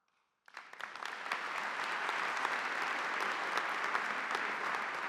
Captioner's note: audience applauding